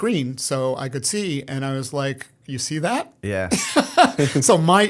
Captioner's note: laughter